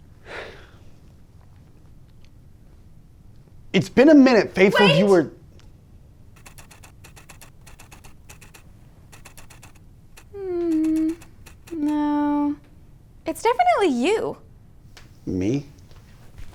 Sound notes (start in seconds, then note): 0.1 sighs; 6.4 aperture clicking